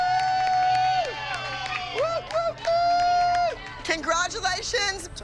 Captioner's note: hooting continues